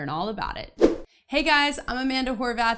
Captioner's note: air whooshing